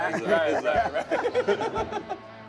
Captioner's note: all laugh